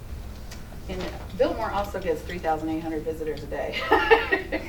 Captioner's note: laughing